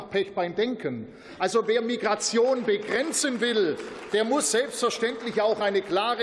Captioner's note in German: Beifall